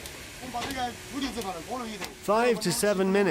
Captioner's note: speaking in foreign language